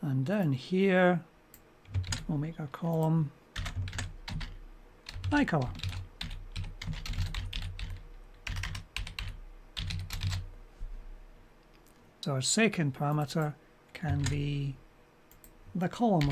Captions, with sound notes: And down here we'll make our column iCarla. [typing] So our second parameter can be the column